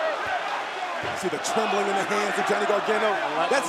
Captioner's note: crowd chatter